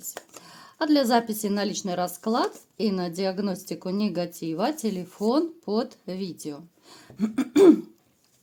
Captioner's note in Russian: откашливается